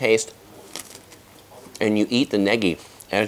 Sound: crunching

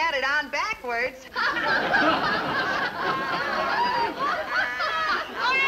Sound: background laughter

